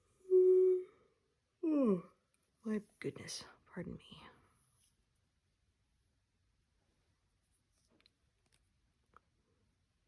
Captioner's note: yawns